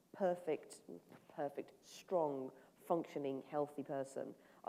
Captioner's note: none